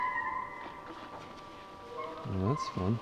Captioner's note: locks squeaking